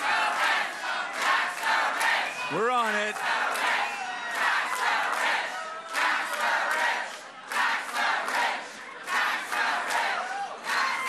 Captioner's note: chanting tax the rich